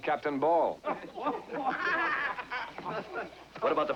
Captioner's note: men Laughing